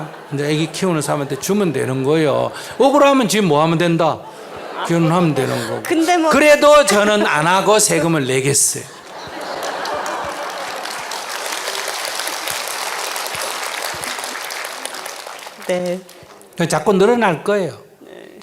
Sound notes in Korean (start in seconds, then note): 0.0 청중 웃음; 4.0 청중 웃음; 9.0 청중 박수